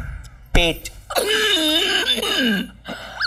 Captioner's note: Wheezing